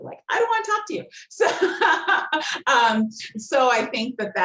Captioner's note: laughing